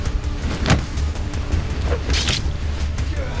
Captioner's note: thudding